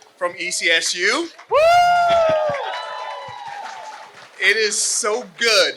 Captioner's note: cheers